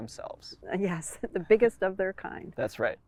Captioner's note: chuckles